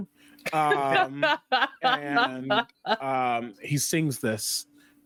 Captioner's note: players laughing